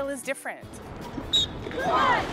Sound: whistle

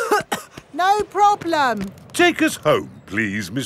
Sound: coughing

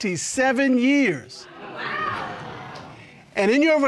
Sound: audience exclaims

